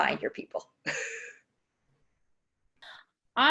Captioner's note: chuckles